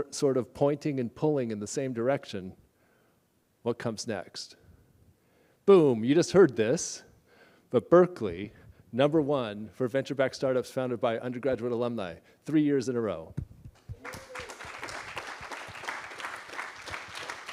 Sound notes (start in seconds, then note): 13.8 applause